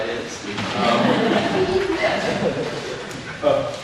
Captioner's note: audience laughs